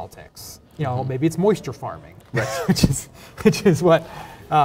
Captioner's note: laughs